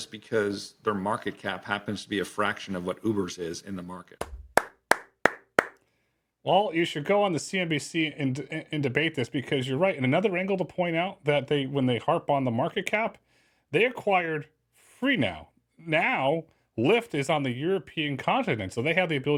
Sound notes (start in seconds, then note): 4.2 clap